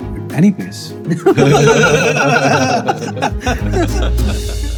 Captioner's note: laughter